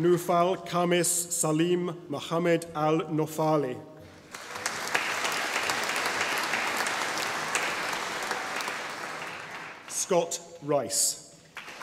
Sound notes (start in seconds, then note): 4.2 audience applauding; 11.5 audience applauding